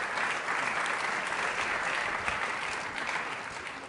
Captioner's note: applause